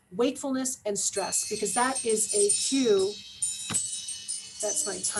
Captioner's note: chimes